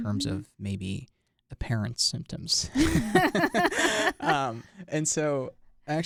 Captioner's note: both laugh